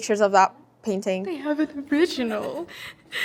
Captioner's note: in awe